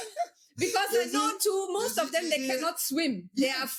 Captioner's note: both laughing